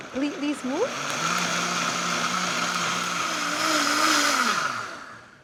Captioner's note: blender whirs